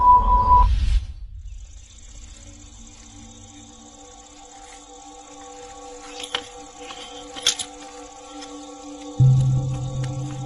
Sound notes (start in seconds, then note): 0.6 insects chirping; 1.9 tense music